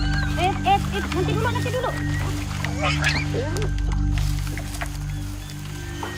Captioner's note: babysitter speaking in foreign language